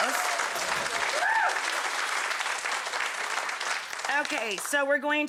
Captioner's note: audience applause